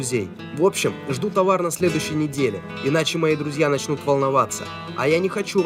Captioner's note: on phone